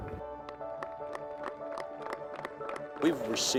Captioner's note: audience applauding